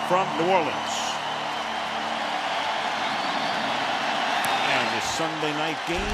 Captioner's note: crowd cheering